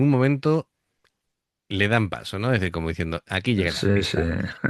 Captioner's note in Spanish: risas